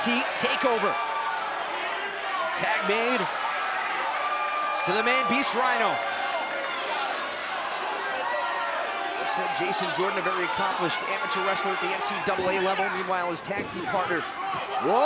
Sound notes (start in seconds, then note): 6.9 crowd cheering